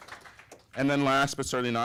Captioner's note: applause